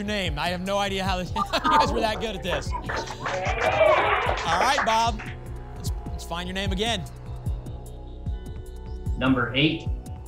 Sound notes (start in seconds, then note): 1.9 applause and cheering